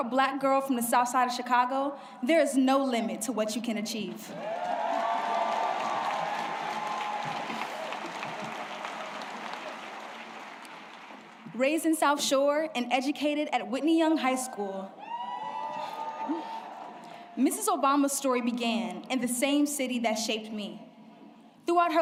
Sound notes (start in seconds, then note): 10.8 applause